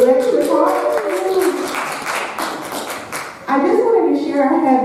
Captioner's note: audience applauding